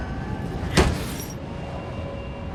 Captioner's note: thud; wind whistling